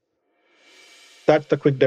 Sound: transition swish

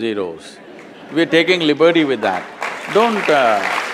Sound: applause

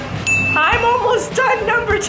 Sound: ringing sound

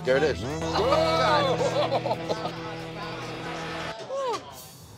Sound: laughing

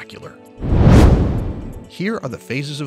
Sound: air whooshing

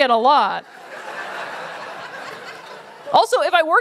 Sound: laughter

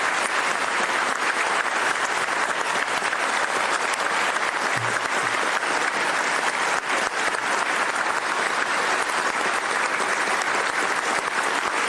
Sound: applause

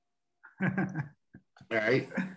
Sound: laughs

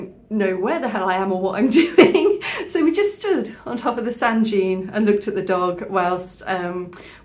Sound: laughing

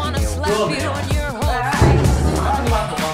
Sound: door slams

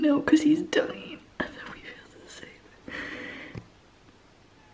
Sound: whispering

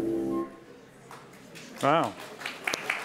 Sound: applause

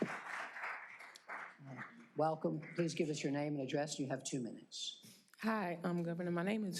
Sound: applause

